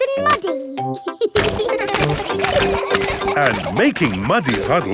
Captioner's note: children laughing